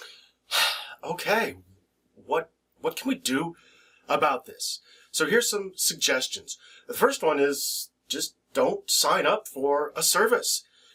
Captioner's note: sigh